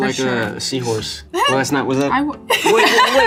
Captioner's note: Loren laughs